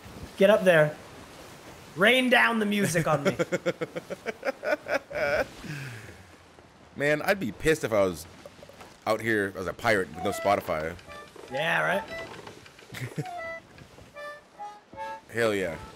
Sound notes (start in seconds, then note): 3.0 laugh; 12.9 laugh